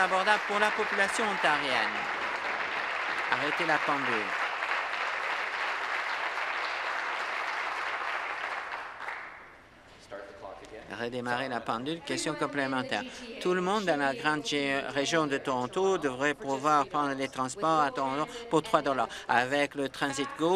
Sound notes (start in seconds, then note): 3.3 applause